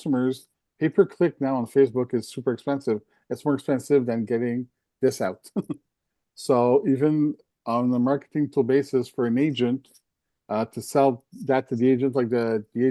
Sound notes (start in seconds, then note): 5.0 laughs